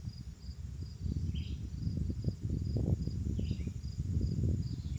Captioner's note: wind